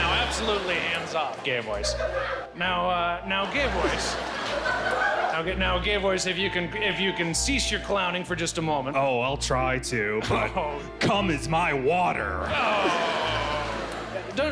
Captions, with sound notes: - Now absolutely hands off, Gay Voice. Now Gay Voice-- (laughter) Now Gay Voice, if you can cease your clowning for just moment. - Oh, I'll try to. Cum is my water. (crowd laughing)